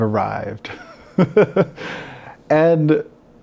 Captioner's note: laughs